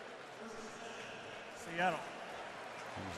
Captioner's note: pa announcement